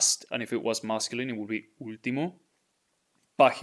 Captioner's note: speaking in Spanish; speaking in Spanish